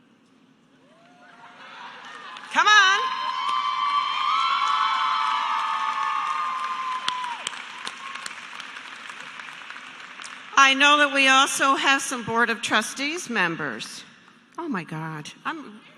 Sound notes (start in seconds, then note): 8.1 cheers and applause